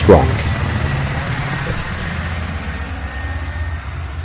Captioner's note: jet engine noise